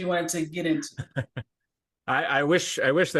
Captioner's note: chuckles